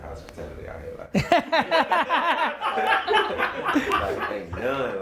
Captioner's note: loud laughter